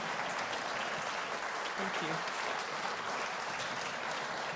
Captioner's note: applause